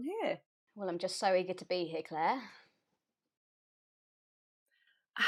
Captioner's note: sarcastically